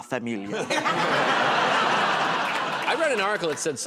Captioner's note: laughter